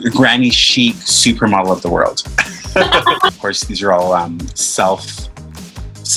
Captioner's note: both laugh